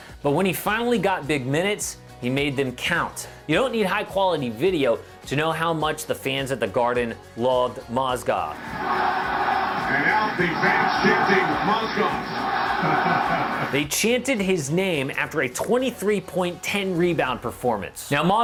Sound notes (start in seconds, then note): 8.5 crowd; 13.3 laughs